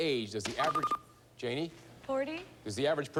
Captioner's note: buzzer